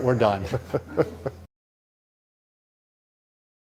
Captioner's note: laughing